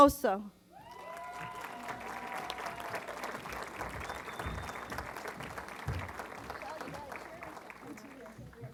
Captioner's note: applause